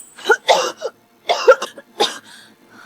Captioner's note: cough cough